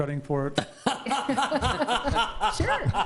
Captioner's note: trustees laughing